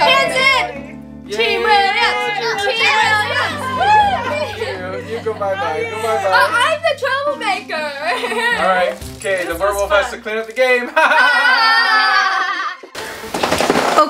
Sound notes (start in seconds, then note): 3.2 family cheers and laughs; 10.8 kids laugh